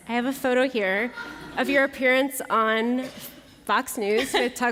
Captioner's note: laughter